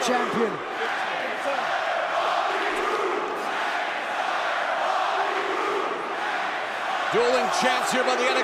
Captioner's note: crowd cheering